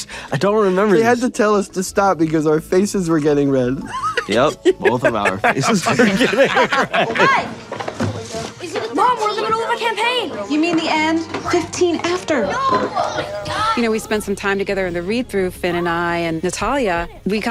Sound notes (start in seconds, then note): 6.5 everyone laughs